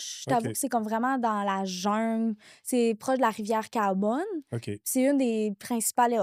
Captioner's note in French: grognement